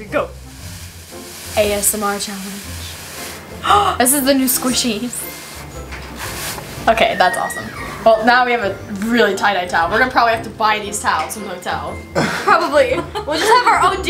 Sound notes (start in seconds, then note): 3.7 gasp